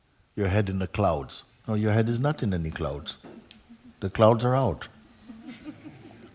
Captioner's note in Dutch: gelach